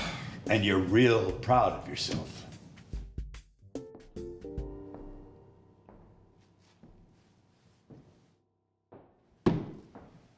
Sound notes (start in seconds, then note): 2.4 upbeat music; 5.8 footsteps